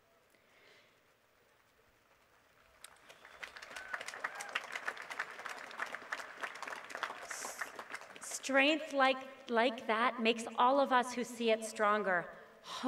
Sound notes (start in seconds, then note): 2.6 applause